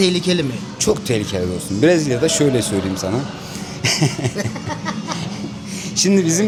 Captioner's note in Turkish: kahkaha